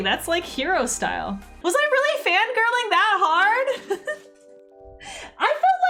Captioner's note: laughs